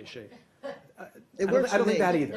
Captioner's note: laughter